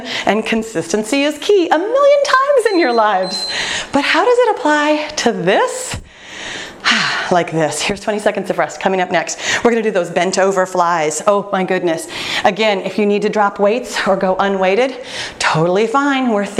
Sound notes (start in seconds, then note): 2.5 timer beeping; 6.0 exhales